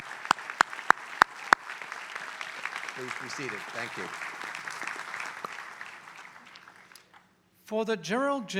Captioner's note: applause